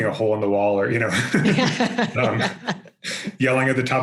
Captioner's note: both laugh